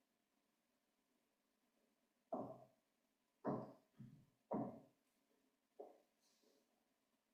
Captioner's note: silence; silence